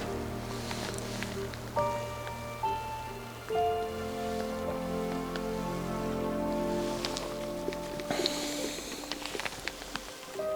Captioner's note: pouring Coffee